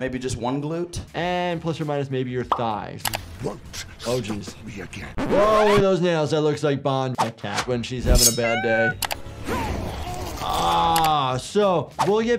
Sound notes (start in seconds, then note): 5.1 record scratch; 8.3 cat meowing; 8.4 Spider-Man groaning